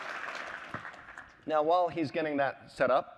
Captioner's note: applause